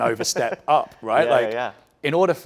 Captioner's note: chuckles